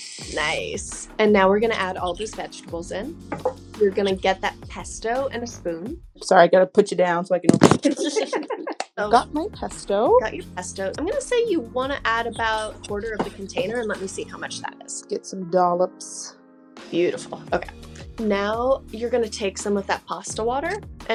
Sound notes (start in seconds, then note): 7.8 both laugh; 8.1 phone thuds